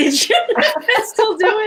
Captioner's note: laughter